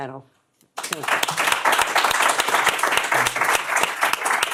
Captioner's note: applause